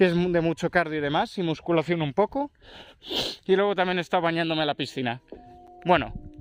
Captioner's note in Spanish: resoplido